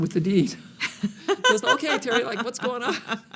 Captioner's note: laughing